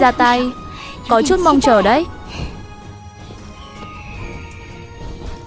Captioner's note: sniffs